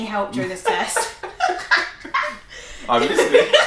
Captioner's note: laughing